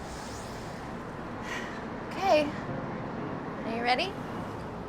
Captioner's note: sighs